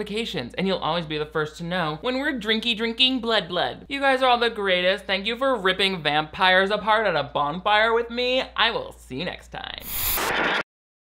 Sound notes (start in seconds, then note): 9.8 logo whooshing; 9.8 static crackling